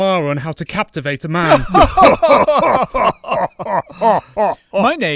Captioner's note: laughter